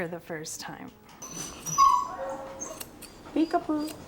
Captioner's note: dog whining